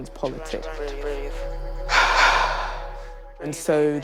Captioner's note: forceful exhalation